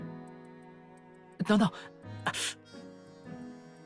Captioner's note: gasp